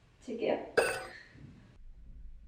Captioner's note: deep breath